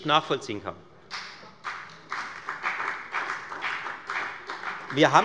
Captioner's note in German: Beifall bei der FDP